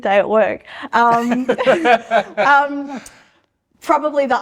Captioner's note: both laughing